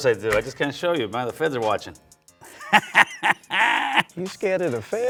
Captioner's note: laughing